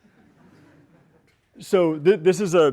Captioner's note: laughter